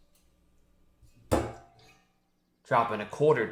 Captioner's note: flask knock